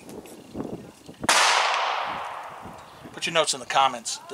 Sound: gunshots on range #2

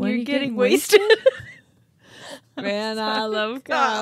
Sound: chuckling

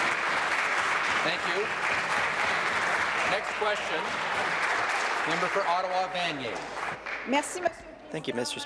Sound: applause

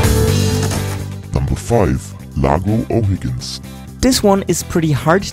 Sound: male Voice

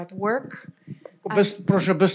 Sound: foreign language

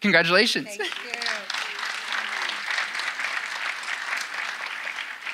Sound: audience applauding

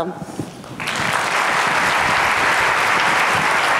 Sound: applauds

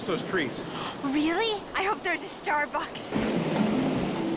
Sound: gasps

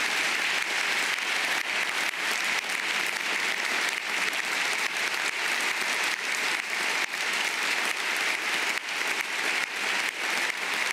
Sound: applause

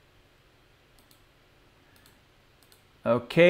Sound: clicking

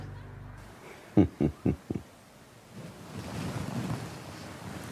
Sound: Adika chuckles

